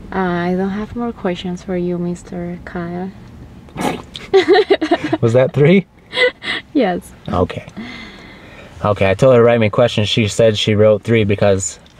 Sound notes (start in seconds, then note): 4.2 risas